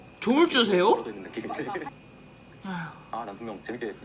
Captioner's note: sigh